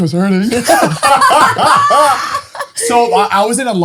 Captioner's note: all laughing